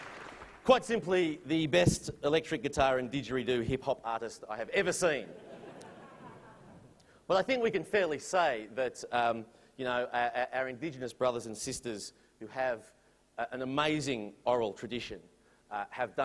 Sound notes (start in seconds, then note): 5.2 laughter